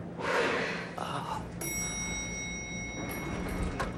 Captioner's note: elevator bell rings